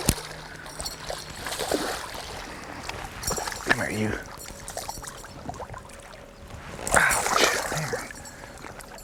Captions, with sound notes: [Splash] [Splashing] come here you. Ouch!